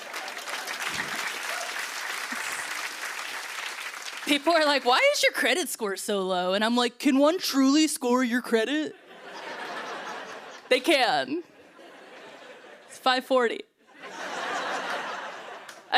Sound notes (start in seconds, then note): 0.0 cheers and applause; 9.0 laughter; 13.9 laughter